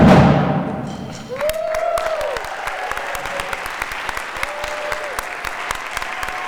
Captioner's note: audience cheering; audience applauding